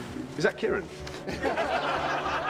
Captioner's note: all laugh